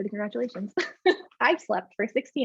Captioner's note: laughs